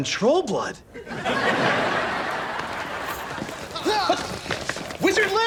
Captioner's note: audience laughs